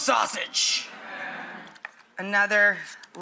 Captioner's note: audience laughs